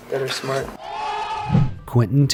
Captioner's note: men yell